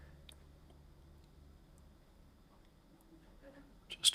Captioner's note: silence